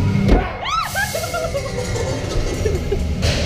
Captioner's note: screaming